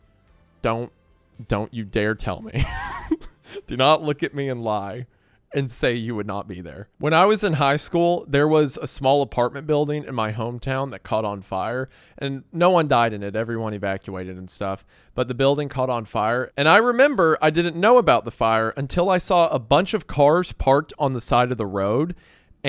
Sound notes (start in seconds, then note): 2.5 laughs